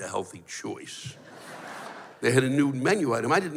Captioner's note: laughter